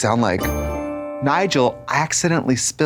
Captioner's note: bright chime